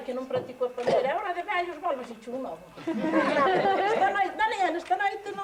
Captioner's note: laugh